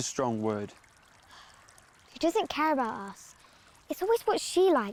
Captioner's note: sighing